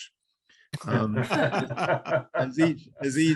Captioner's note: everyone laughs